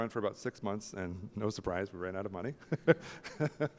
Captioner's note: laughs